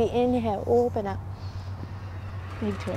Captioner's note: takes deep breath